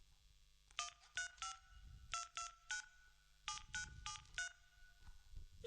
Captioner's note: dialling